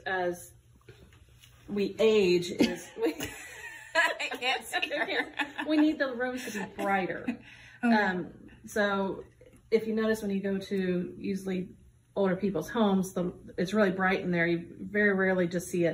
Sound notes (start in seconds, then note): 2.6 laughing at looking around